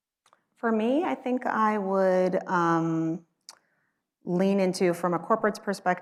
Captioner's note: smacks lips